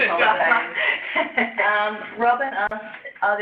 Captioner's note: laughter